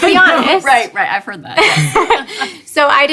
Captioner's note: laughs